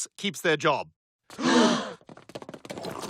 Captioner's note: gasping